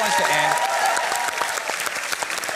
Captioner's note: cheering and applause